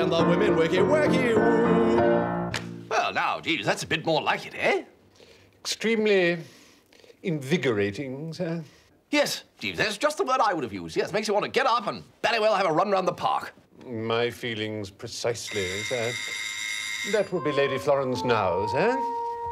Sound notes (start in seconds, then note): 15.4 doorbell